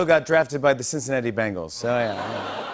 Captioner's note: audience groans